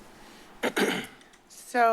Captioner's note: clears throat